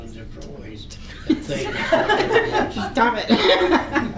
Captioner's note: committee laughs